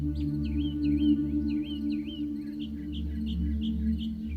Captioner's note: birds chirping